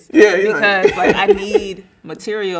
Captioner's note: laughing